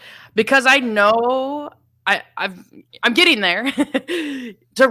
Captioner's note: laughs